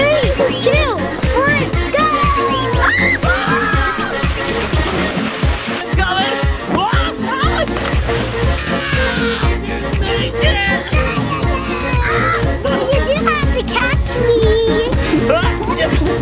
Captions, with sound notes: - Three, two, one go! (screams) - I'm coming. - Ahhh. Adley. - I didn't make it. - Try again. - You do have to catch me.